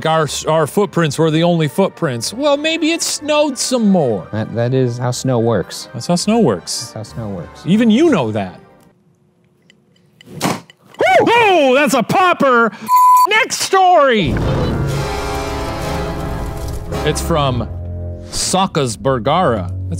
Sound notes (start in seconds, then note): 10.5 firewood popping; 14.2 dramatic music